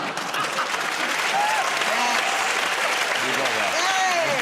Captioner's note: cheering and applause; laughter